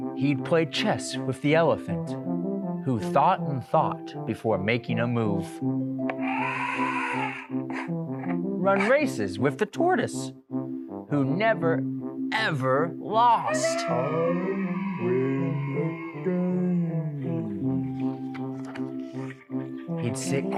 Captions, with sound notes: He played chess with the elephant, who thought and thought before making a move. [elephant trumpeting] Run races with the tortoise who never, ever lost, [crowd cheering] He'd sit